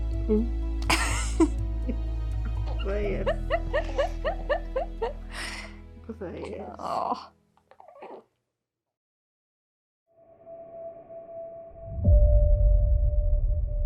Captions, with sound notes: [mom laughs] - There he is. There he is. - Aww. [ambient music]